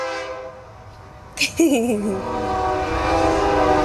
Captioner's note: train horn; giggle